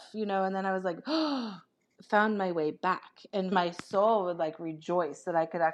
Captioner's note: gasp